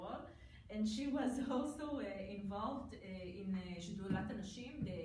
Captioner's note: foreign language